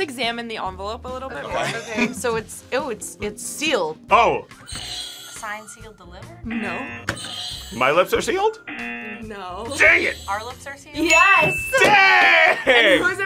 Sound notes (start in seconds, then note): 4.5 buzzer rings; 6.4 buzzer; 8.4 buzzer rings; 8.6 buzzer